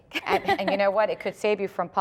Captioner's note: laughter